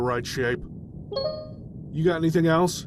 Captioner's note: Steam notification